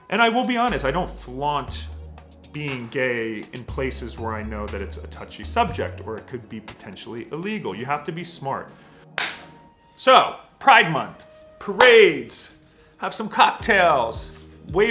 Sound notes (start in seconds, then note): 9.2 hands clap